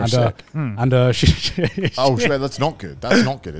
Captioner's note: laughs